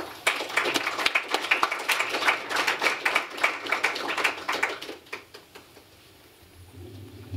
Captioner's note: applause